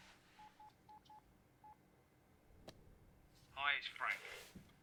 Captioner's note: phone beeping